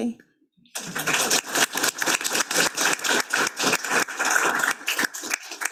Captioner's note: attendees clapping